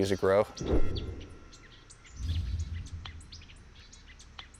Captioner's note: birds chirping